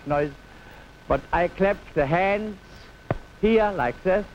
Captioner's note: hands clap